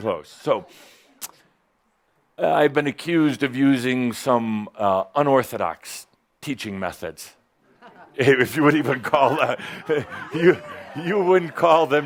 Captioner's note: chuckling